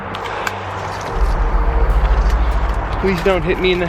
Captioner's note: branches cracking